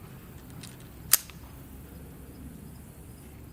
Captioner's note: clicking